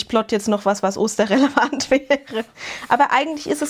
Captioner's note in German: gelächter